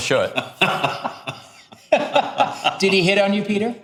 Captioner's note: laughing